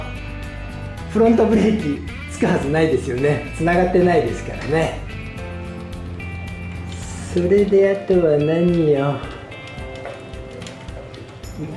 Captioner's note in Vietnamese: cười